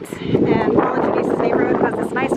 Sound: wind blowing

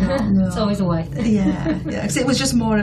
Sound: laughs

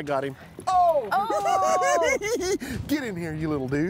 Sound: cackling

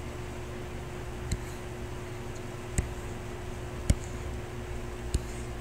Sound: computer mouse tapping

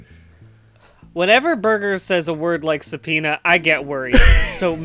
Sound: laughs

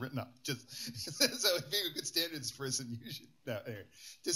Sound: laughs

